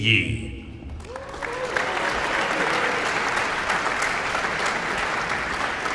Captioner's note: audience cheering and applauding